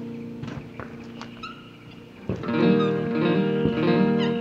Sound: pasos

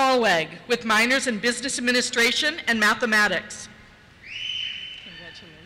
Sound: cheers

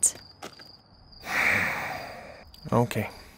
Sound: sighs

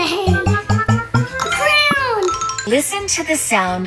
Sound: booping sound

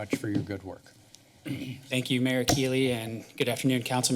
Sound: clears throat

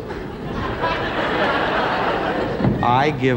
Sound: audience laughter

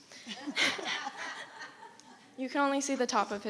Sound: crowd giggling

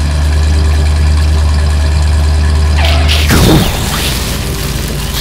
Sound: engine noise; explosion; skid

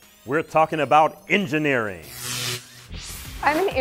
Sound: sound Effects

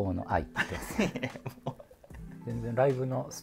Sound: laughing

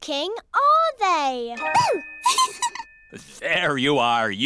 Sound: giggles

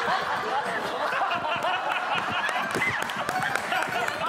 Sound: laughing

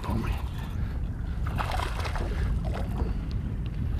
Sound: splashing

